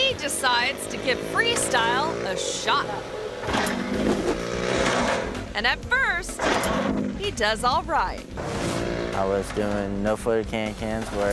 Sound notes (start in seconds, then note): 3.5 motorbike revs; 3.5 ramp clangs